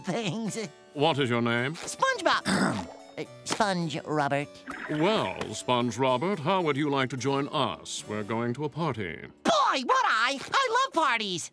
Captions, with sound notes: - What is your name? - SpongeBob! [grunting] Ah, SpongeRobert. Well, SpongeRobert, how would you like to join us? We're going to a party. Boy, would I! I love parties!